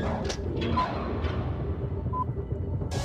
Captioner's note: beeping